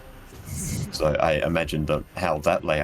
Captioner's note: wistful sigh